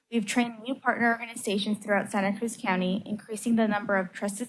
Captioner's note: none